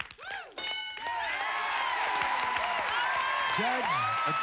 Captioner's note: cheers and applause